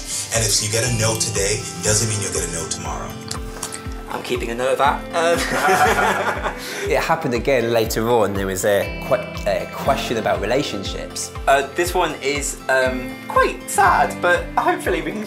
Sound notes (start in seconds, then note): 5.3 laughs